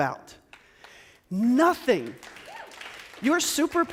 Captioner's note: audience claps